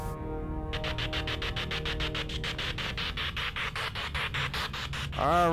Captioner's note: electronic buzzing